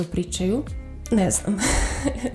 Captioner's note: laughs